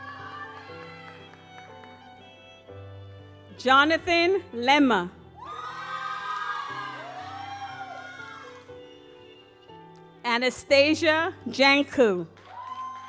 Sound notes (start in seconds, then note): 2.3 gentle music; 5.4 audience applauds; 12.3 audience applauds